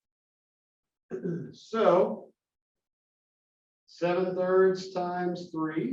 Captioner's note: cough